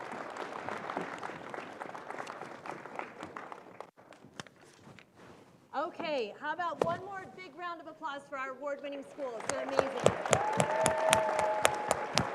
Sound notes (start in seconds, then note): 1.7 applause